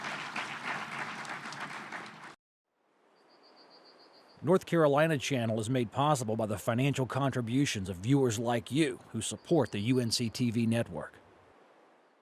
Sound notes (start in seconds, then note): 0.0 applause; 7.5 voiceover